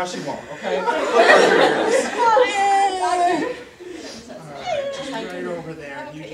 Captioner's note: audience laughter